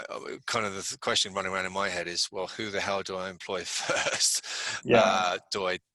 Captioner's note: laughs